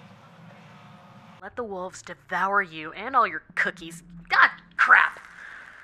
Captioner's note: podcast playing